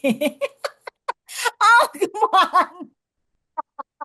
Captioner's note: laughs